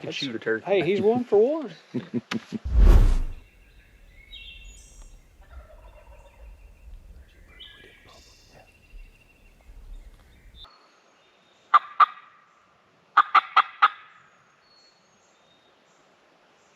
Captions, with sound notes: He can shoot a turkey. - Hey, he's one for one. (turkeys gobbling) - (whispering) There's a pretty one. - Yeah. (turkey call)